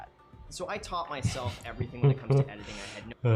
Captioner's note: laughs